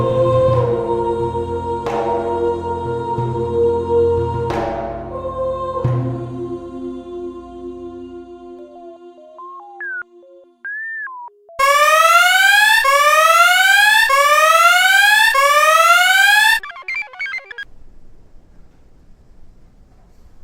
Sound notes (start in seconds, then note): 8.7 offhand electronic music; 11.5 alarm blares; 15.3 computer chirps